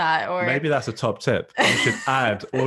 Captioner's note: laughs